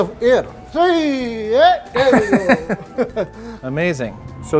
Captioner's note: laughs; hollers